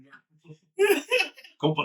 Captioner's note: laughing